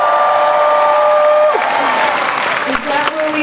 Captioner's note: cheers and applause